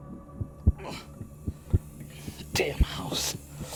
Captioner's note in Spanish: Rogers gruñe